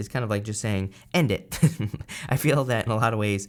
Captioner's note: laughs